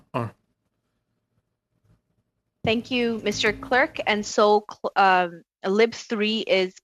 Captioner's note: speaking French